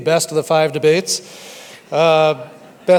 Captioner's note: audience laughs